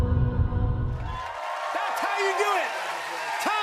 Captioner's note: cheers and applause